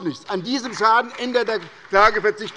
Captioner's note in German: Beifall bei Abgeordneten der SPD